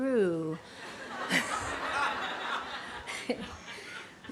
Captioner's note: laughter